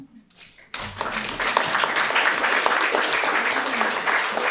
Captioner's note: audience applauds